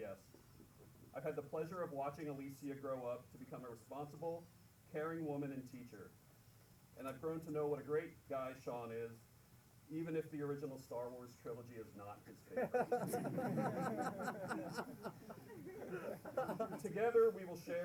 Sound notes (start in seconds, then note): 12.5 laughter